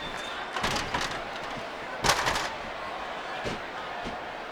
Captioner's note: ladder clatters; audience chattering